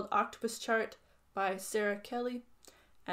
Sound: none

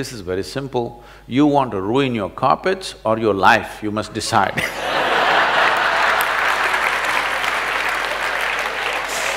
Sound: laughter/Applause

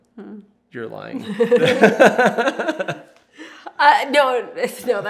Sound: laughter

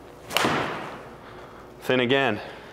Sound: ball thuds

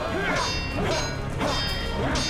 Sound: metal clanging

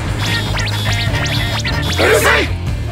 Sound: bing bing bing

